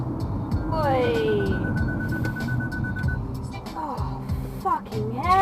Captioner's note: car alarm beeps